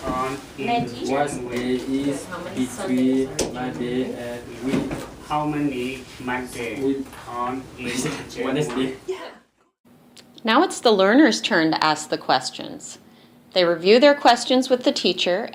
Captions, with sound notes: (multiple students reading in broken English) - [Voiceover] Now it's the learner's turn to ask the questions. They review their questions with the teacher